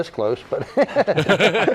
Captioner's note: laughter